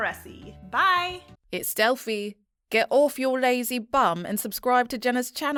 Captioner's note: confident Female Voice